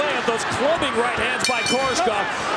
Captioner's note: bell dings